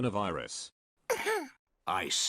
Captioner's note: child coughs